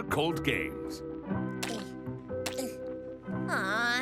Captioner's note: something gross and wet being poked